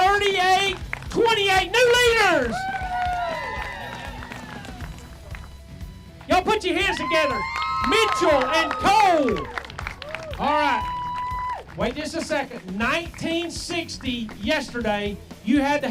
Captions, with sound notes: Two day total of 38.28, new leaders. (clapping) Y'all put your hands together, Mitchell and Cole. All right, wait just a second, 19.60 yesterday,